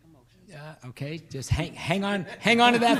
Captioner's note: laughing